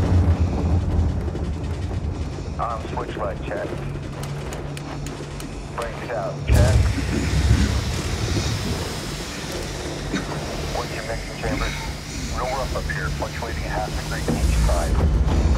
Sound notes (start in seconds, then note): 4.1 switches clicking; 6.5 air Hissing